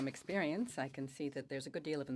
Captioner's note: speaking French